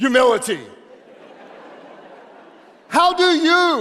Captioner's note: audience laughing